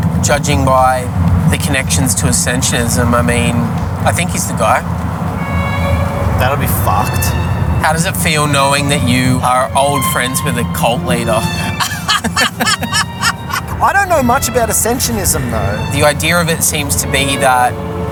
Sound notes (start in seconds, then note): 11.2 laughs; 11.4 laughing